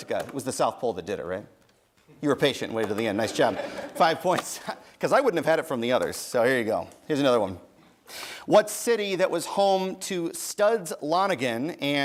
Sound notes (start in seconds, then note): 3.1 chuckles